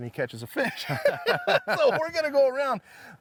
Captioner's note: laughing